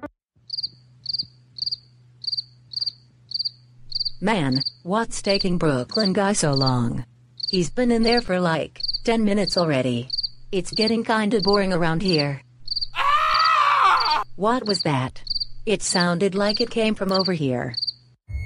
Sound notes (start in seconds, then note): 0.2 crickets chirping; 12.9 screaming